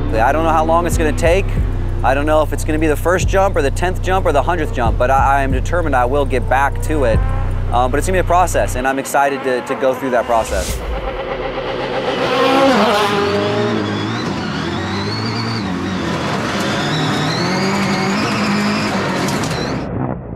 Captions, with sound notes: - I don't know how long it's gonna take. I don't know if it's gonna be the first jump, or the tenth jump, or the hundredth jump, but I am determined I will get back to it. But it's gonna be a process. And I'm excited to go through that process. (car revving)